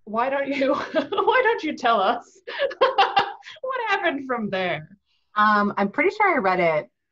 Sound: laughing; laughs

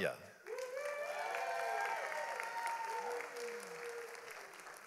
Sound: audience applauds

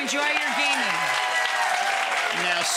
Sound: audience applauding

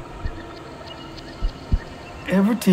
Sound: birds chirping

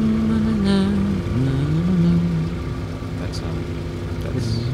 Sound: humming

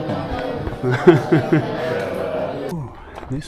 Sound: laughing

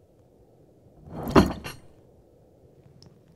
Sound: loud thud

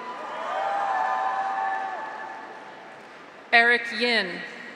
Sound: graduates cheer; audience applauds

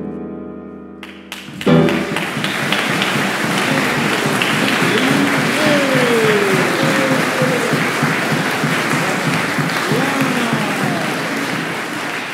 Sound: applause

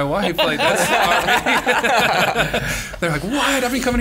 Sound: laughter

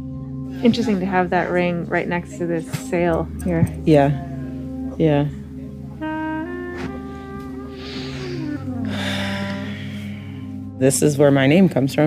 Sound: sighs

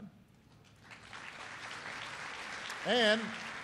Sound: applause

